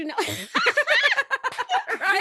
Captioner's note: both laughing